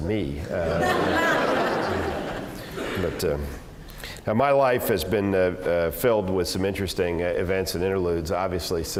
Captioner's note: laugh